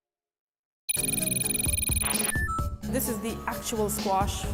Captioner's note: electronic beeping